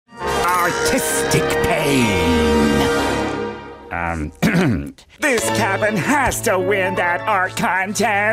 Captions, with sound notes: Artistic pain! Um. [clearing throat] This cabin has to win that art contest.